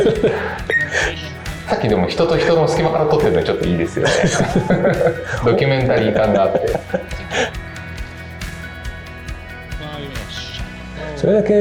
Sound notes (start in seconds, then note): 4.4 laughs